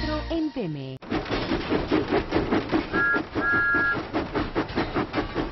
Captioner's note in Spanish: resoplando y silbando